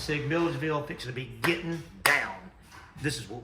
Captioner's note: claps